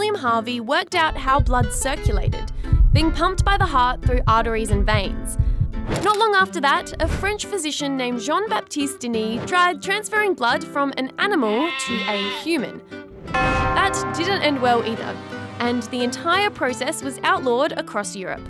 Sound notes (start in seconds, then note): 5.1 heartbeat